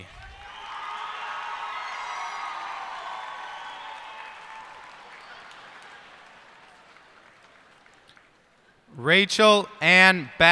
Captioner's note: cheers and applause